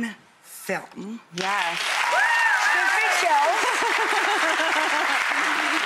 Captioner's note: audience applauding